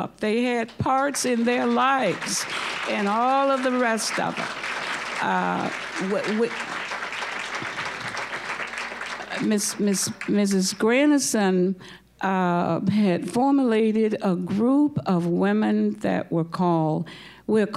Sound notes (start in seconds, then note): 4.8 applause